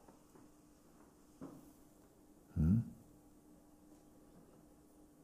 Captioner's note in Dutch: stilte